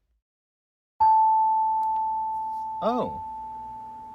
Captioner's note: chime